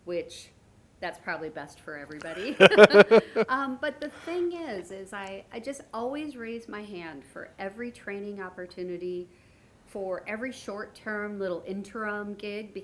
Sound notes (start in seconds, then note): 2.2 laughing